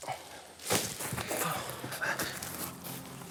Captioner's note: mutters